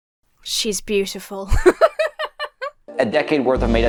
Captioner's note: laughs